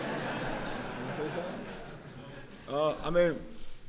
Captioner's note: laughter